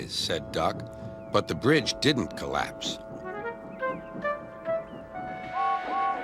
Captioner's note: duck chuffs away; James whistles, guard blows his whistle, Thomas whistles in response